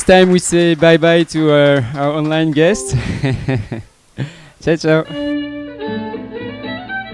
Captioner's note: applause